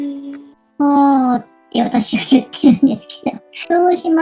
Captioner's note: laughs